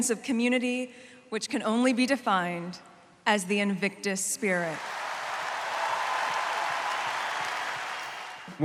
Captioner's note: cheering, applause